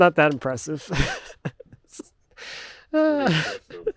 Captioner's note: laughing